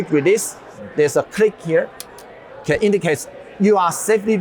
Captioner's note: lever clicks